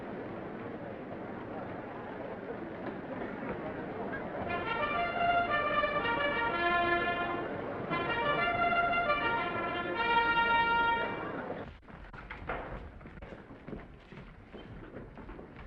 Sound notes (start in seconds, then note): 4.4 triumphant music; 11.5 footsteps receding